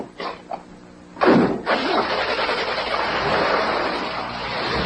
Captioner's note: engine starts